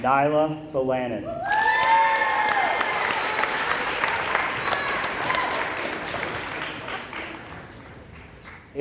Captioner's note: applause